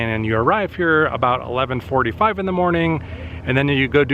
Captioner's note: none